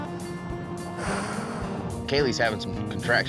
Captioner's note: exhales